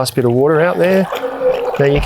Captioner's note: faucet pumping